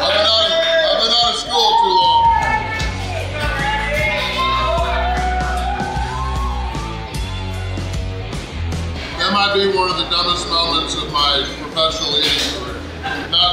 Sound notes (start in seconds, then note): 2.5 crowd cheers